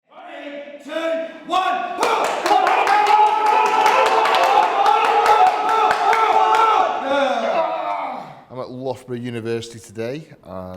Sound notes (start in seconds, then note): 1.4 shouts of encouragement